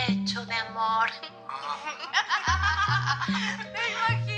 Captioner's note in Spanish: Risas